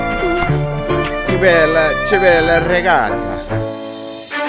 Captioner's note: in Italian